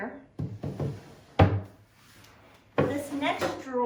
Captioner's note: drawer closes